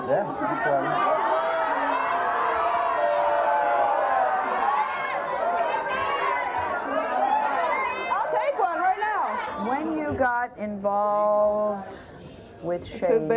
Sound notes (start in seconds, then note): 1.1 audience boos